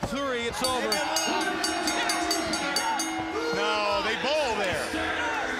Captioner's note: bell ringing